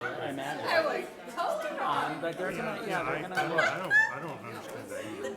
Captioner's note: people chattering and laughing